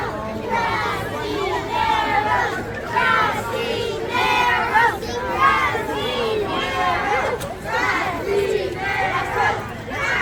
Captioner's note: chant